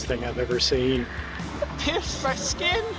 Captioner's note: wind gusting